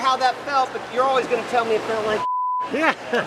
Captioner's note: beep; both laughing